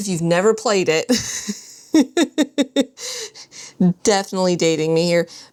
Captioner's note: laughs